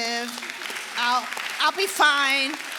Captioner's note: audience applauding